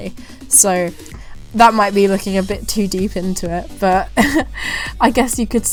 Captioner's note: laughs